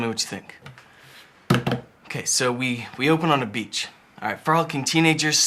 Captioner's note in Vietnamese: đập bàn